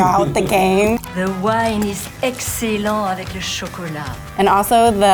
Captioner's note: foreign language